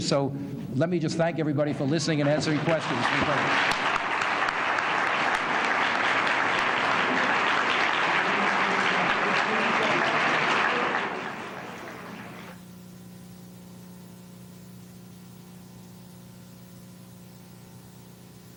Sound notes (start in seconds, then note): 3.9 applause